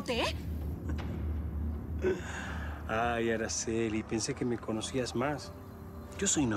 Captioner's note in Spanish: riendo